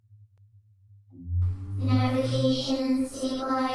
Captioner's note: hummmm!